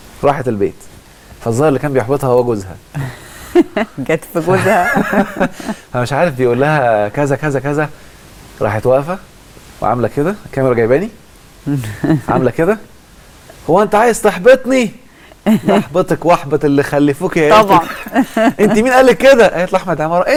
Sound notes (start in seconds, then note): 2.9 laugh!